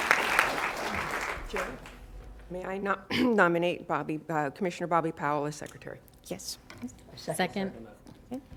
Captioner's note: applause